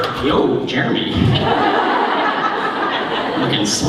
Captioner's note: laughter